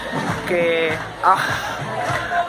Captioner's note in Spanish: suspiro